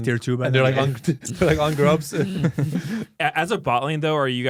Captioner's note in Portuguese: risos